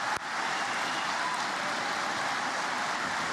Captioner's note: applause